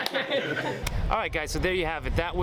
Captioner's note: crowd laughing